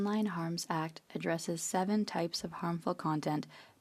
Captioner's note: speaking French